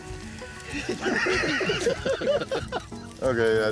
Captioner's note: laughter